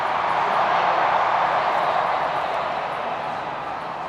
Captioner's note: crowd cheering